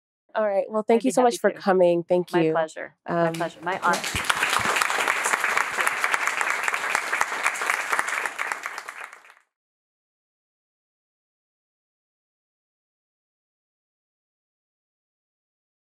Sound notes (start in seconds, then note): 5.2 applause